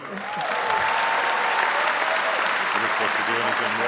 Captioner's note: audience cheers and applauds